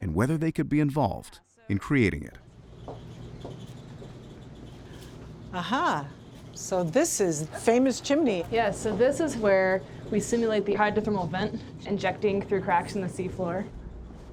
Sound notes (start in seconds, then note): 2.4 whirring and buzzing of machinery